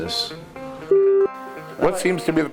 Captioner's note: beep